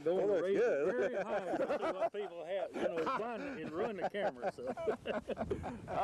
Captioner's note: laughter